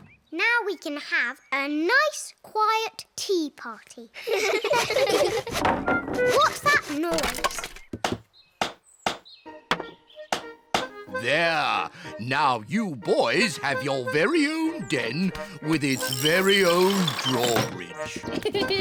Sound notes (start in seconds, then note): 3.7 clattering; 4.2 all laugh